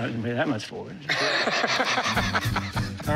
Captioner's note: laughter